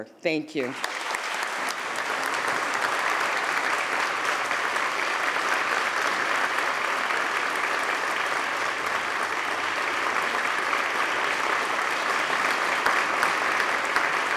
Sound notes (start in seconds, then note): 3.3 applause